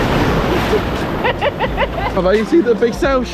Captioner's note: laughing